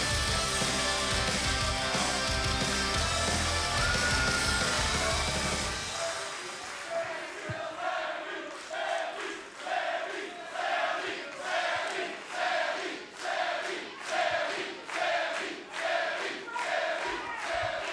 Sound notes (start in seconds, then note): 6.2 crowd cheering